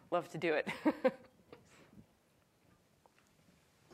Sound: chuckles

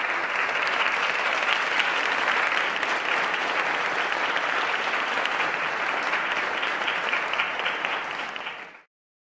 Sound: applause

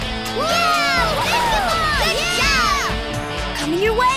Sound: cheering

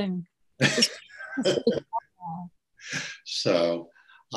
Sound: laughs

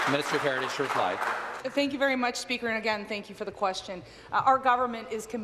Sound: some Applause

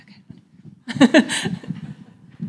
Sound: laughing

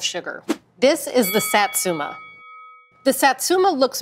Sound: bell dings

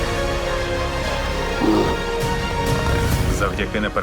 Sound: heroic music playing; roar, low guttural growl

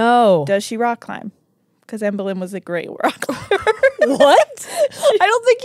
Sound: laughs

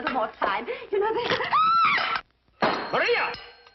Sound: shrieking

